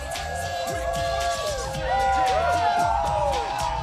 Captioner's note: crowd chatter; crowd cheering